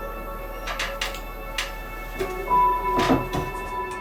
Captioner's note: wood creaking